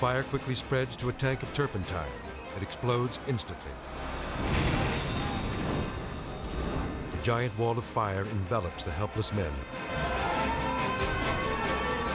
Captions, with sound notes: The fire quickly spreads to a tank of turpentine. It explodes instantly. (tank explodes) A giant wall of fire envelops the helpless men. (siren blaring)